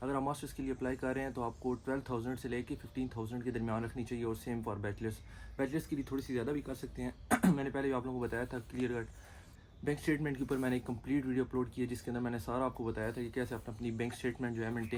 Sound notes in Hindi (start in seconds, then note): 7.2 गला साफ़ करने की आवाज़